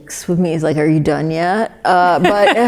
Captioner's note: laughs